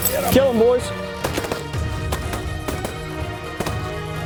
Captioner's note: gun shots